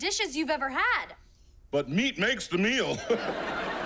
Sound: chuckles

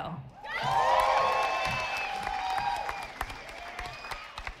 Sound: audience applauding

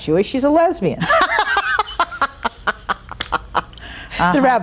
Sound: laughing

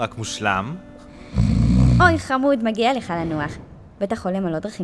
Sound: snores

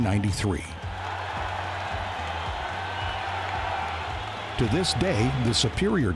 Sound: spectators cheering

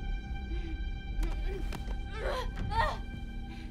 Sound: woman groans

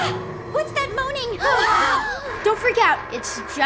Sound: gasps

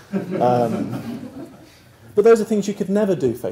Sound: laugh

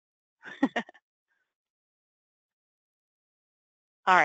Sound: laughs

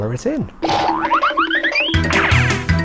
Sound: objects boing; playful music

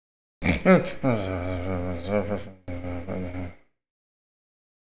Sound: BSG snoring

